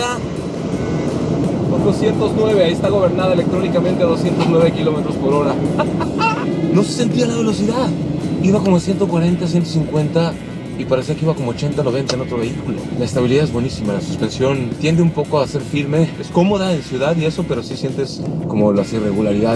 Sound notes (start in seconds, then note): 5.6 laughter